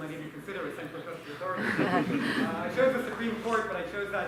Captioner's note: laughter